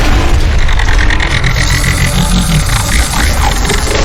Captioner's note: ground rumbling; creature roaring; electricity crackling